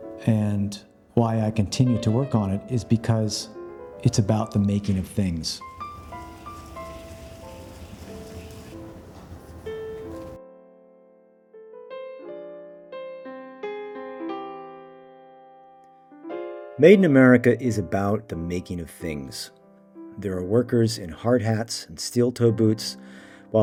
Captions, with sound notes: and why I continue to work on it is because it's about the making of things. (machinery humming) (gentle piano music continues) "Made in America" is about the making of things. There are workers in hard hats and steel toe boots